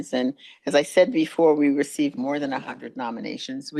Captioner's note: none